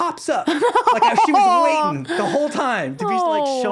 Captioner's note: laughing